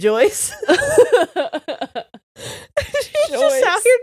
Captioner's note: laughing